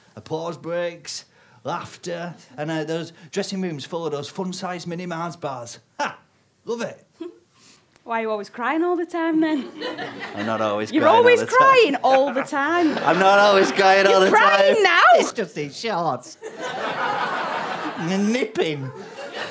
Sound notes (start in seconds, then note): 16.4 audience laughter